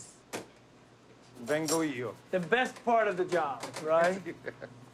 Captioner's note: speaks Italian